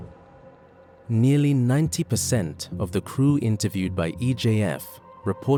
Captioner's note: voiceover